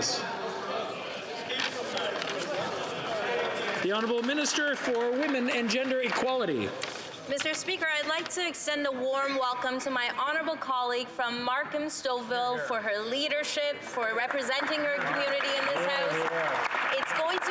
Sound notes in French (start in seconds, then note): 4.8 voix de l'interprète